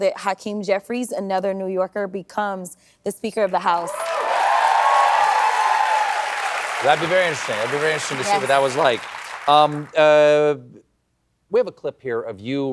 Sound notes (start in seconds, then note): 3.7 cheering